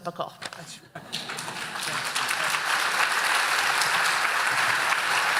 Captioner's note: audience applauding